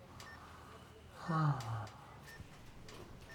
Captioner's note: Florio moans almost silently